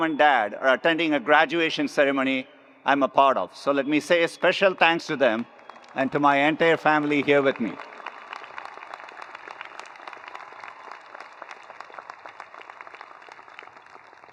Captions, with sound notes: and dad are attending a graduation ceremony I'm a part of, so let me say a special thanks to them and to my entire family here with me. (attendees applauding)